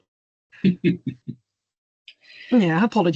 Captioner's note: chuckles